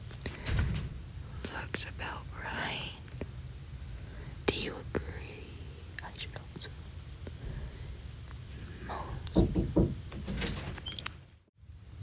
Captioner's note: knocking